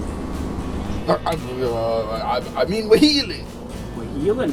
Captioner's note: spluttering